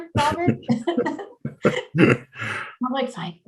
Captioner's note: chuckle